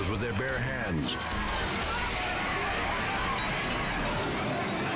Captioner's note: glass shatters